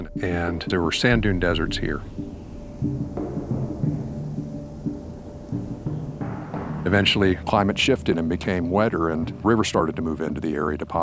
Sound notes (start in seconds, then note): 3.7 soft wind blowing